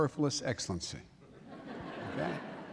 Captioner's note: laughter